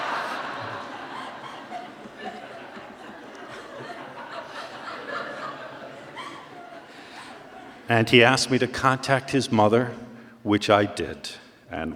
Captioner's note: lots of laughter